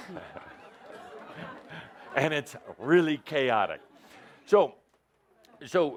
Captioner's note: laughter